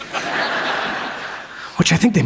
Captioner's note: audience laughs